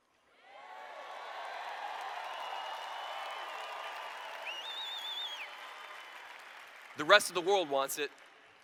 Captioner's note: cheers